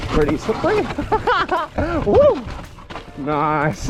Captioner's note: laughs